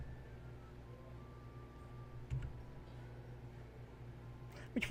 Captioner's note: taps, clicks